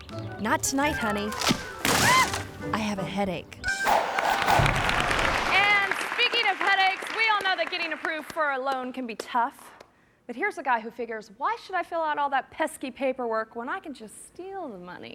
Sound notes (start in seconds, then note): 0.9 branch crunches; 1.2 wife screams; 3.8 logo whooshing; 4.0 audience clapping